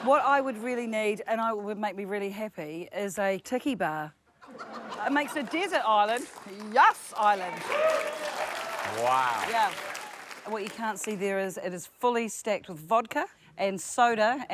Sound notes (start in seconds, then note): 6.1 cheers, applause